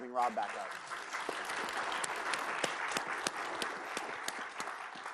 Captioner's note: applause